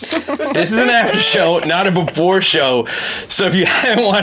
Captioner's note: giggling